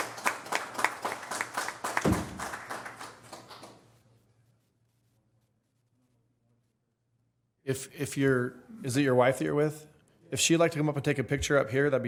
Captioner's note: applause